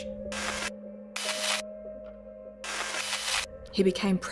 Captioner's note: digital static cracking